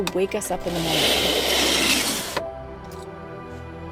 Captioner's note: blinds opening; calm music